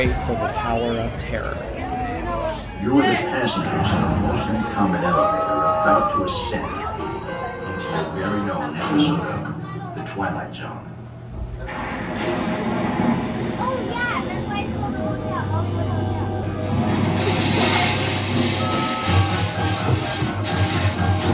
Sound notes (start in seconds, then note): 7.0 elevator Ding; 11.4 distant Thunder